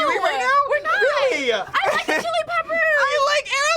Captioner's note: laughs